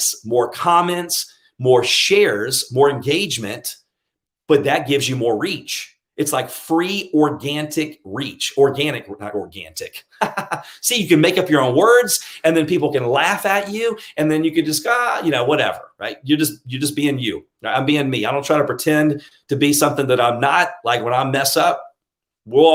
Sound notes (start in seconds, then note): 10.1 laughing